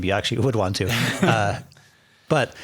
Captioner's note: laughing